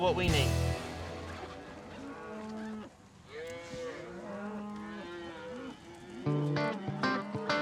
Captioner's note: cattle lowing